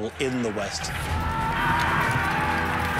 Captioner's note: men shouting